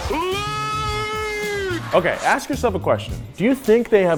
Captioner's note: crowd cheering